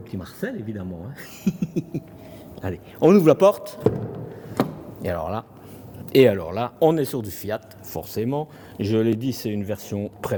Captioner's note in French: rires